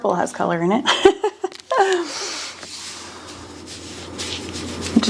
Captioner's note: person laughing